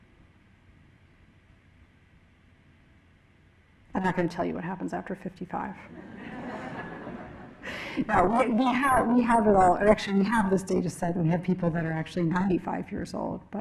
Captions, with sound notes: I'm not gonna tell you what happens after 55. (laughing) Actually, we have this data set and we have people that are actually 95 years old,